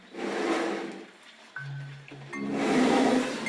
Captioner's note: snorting